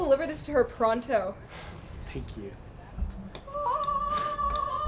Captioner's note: relieved sigh